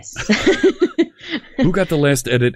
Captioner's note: laughing